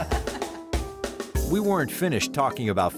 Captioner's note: laughter